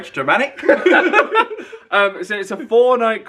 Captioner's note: both laugh